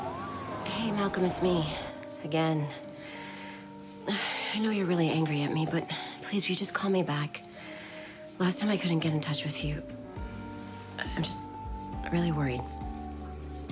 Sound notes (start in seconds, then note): none